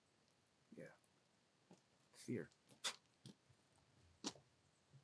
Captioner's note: scoffs